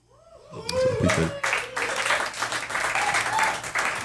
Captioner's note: audience applauding